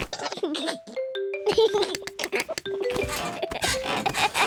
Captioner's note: giggles